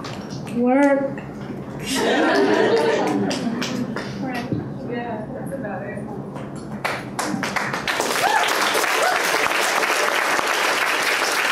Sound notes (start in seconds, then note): 1.8 laughter; 7.2 applause and cheering